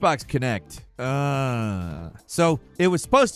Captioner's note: groaning